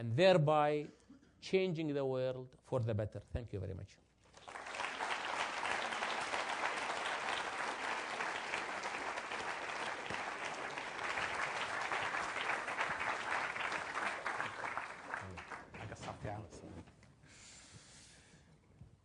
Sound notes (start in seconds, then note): 4.2 applause